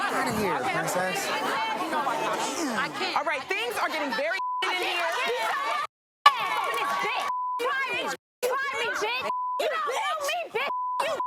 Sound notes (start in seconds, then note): 5.6 screaming and arguing; 10.6 beep